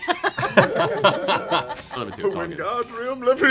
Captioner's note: laughter